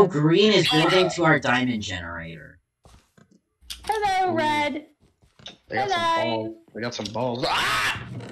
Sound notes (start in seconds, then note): 5.6 posh accent